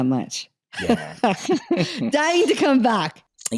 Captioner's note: laughs